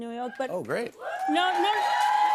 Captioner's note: cheers and applause